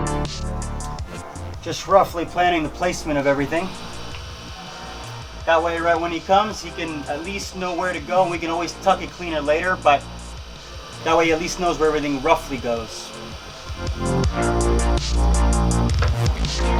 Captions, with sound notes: Just roughly planning the placement of everything. (machine whirring) That way when he comes, he can at least know where to go. We can always tuck it cleaner later, but that way at least knows where everything roughly goes. (upbeat music)